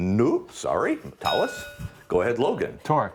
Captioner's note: ding